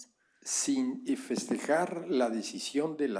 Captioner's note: spanish